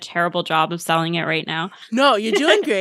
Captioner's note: laughter